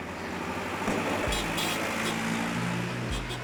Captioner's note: honking